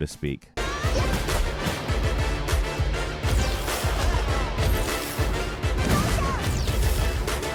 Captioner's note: upbeat music; fighters grunting